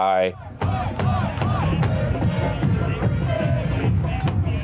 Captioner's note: crowd chanting